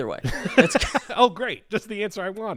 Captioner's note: laughing